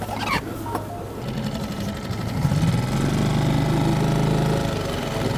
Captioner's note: boat engine roaring